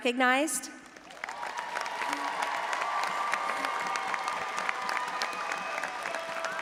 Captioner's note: all applauding and audience cheering